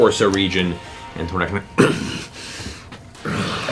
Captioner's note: snarls